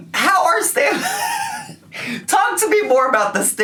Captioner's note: laughing